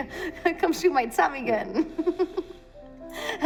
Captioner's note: laughs